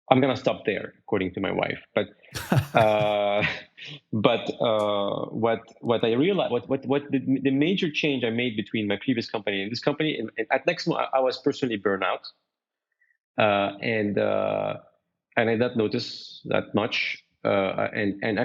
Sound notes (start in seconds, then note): 2.3 chuckles; 2.3 laughs